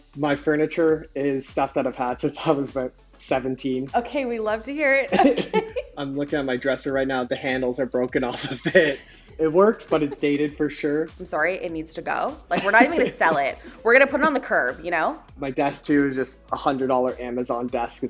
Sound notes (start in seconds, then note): 5.1 chuckling; 8.3 laughs